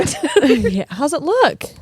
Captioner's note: laughing